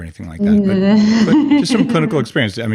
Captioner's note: laughs